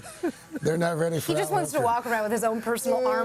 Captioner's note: laughter